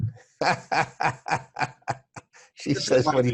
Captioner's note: laughing